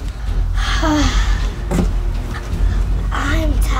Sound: sighs

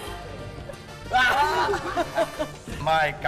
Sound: laughing

